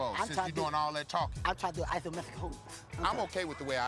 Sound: lisp

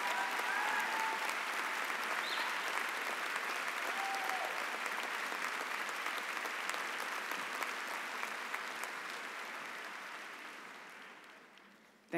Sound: cheering and applause

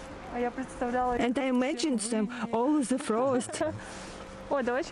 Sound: laugh

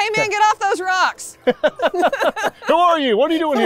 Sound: laughs

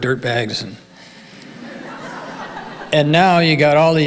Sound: audience laughing

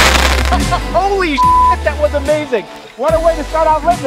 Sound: beep

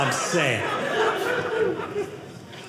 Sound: audience laughing

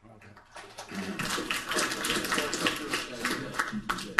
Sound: applauding

